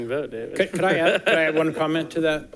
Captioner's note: chuckling